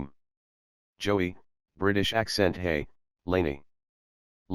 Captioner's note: british Accent